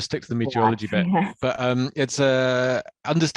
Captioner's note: laughs